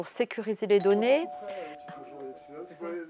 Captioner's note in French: Sonnerie